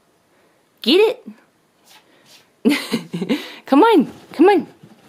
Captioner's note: laughs